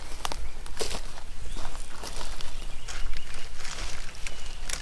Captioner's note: birds chirping; crackling footsteps; crackling branches; birds chirping